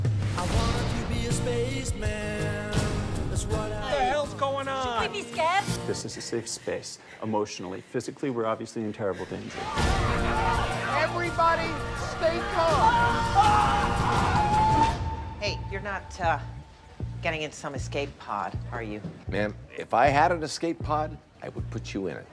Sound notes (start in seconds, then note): 9.5 crowd clamors; 11.8 screaming